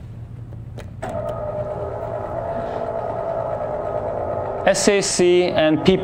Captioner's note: mechanical whirring